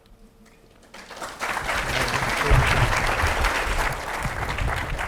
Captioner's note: audience applauds